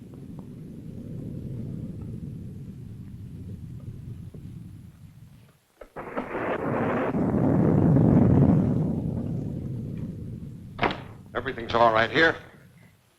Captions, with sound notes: (thunder rumbling) - Everything's all right here.